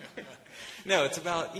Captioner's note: laughter